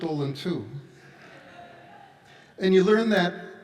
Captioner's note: audience laughs